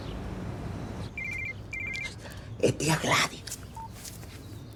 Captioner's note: cell phone sounds